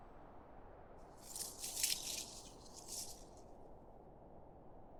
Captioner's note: leaves rustling